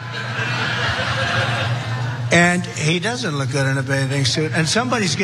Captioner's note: laugh